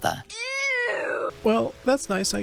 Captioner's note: cub meows